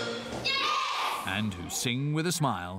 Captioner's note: children In Unison